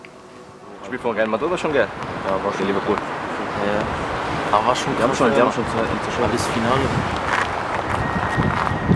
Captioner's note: speaking turkish